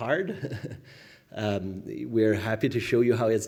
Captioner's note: chuckling